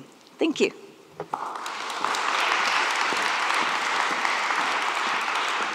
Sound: applause

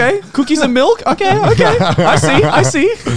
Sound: laughing

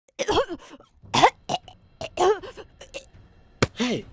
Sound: choking noises

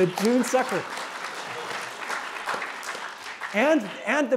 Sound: applause

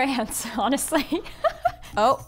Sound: laughing

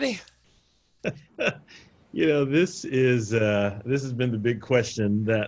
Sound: laughing

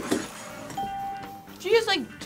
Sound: bell rings

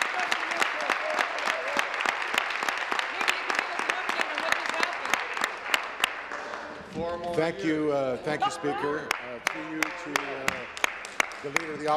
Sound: applause; cheering; continued applause

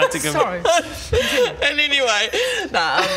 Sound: sobs

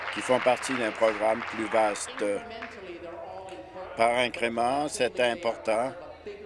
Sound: applause

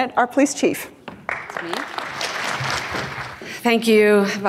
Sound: audience claps

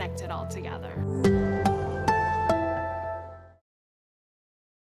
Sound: sonic logo

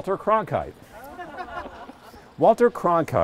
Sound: crowd laughs

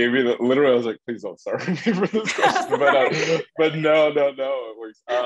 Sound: laugh; laugh

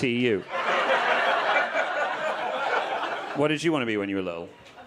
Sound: audience laughing

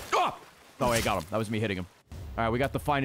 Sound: knife swinging noises

